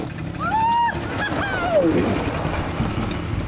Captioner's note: scream